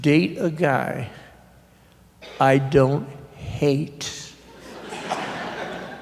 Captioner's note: laughter